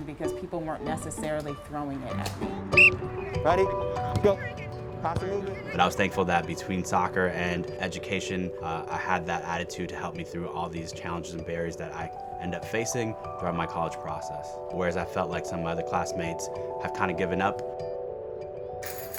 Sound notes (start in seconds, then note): 2.7 whistle